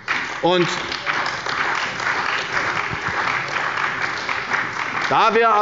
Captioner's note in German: Beifall bei der CDU und dem BÜNDNIS 90/DIE GRÜNEN